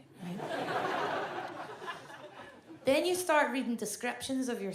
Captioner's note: audience laughs